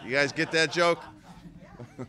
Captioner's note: laughter